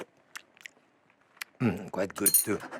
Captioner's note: smacks lips